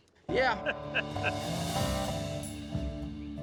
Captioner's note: all laughing